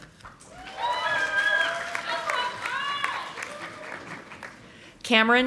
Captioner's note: audience applauding